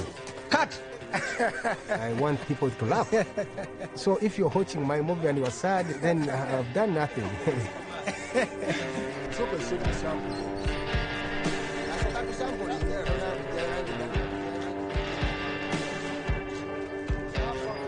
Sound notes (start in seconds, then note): 0.9 laughs; 7.9 laughing; 9.5 crew mates chattering; 9.5 funky '70s music